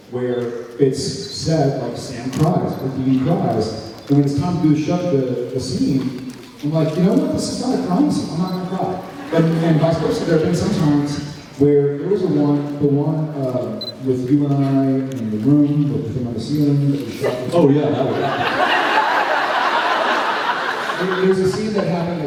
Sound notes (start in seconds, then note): 18.0 laughs